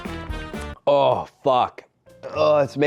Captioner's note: record scratch